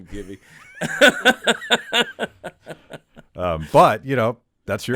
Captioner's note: laughing